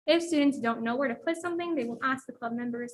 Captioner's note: none